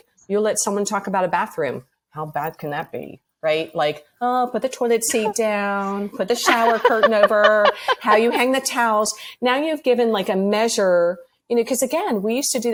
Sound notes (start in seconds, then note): 8.9 laughs